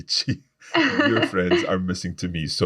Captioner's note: laughs